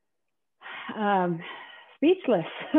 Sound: sigh

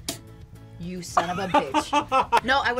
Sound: laughs

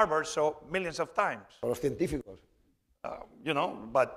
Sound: speaking spanish

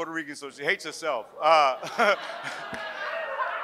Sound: audience laughs; laughs

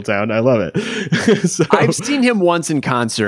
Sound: laughing

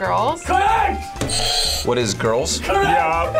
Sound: buzzer rings

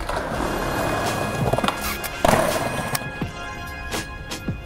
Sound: skateboarding rolling; upbeat music

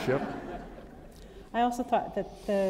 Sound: laughter

